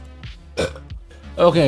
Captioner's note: burps